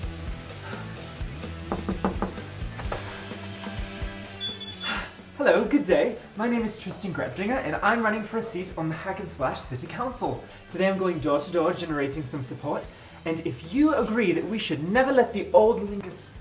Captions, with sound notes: (door knocking) - Hello. Good day. My name is Tristan Gretzinger and I'm running for a seat on the Hackenslash city council. Today, I'm going door to door, generating some support. And if you agree that we should never let the old linger,